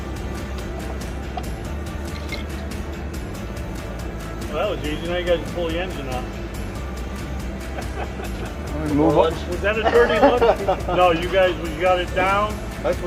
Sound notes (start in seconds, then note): 7.7 chuckles; 9.6 mechanic laughing